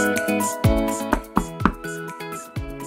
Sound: knock, knock, knock!

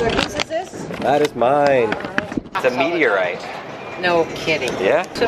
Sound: voiceover; voiceover

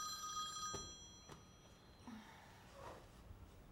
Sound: phone ringing

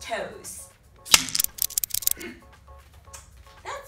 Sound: stick cracking

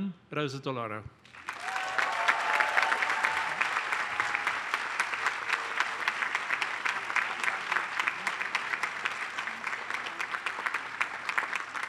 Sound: applause

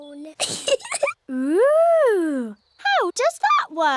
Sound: giggles

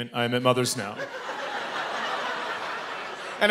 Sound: laughter

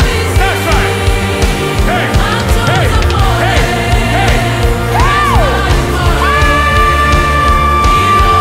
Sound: fresh fire is burning

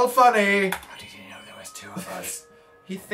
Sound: whispers

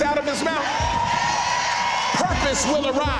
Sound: cheering

